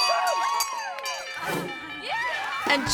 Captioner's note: bells ring; people cheering